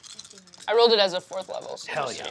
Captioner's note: dice clattering